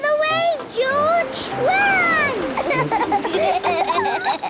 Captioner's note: laughs; snort